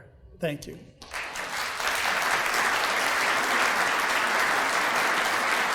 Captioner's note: audience applauding